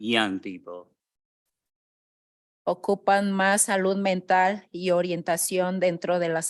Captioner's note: speaking in Spanish